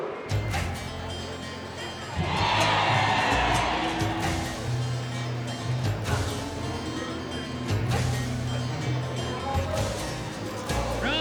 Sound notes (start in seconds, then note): 2.7 crowd cheers